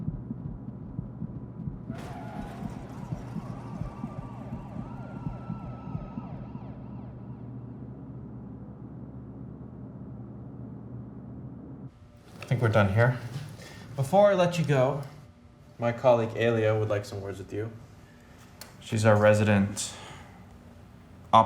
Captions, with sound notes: [Heartbeat] [Tire screech, car crash noise, sirens] I think we're done here. Before I let you go, my colleague Ailia would like some words with you, she's our resident... Optillist.